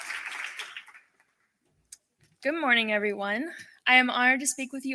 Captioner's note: applause